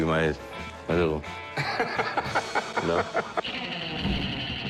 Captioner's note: laughter